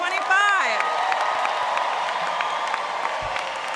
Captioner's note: cheering